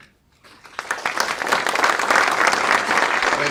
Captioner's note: audience clapping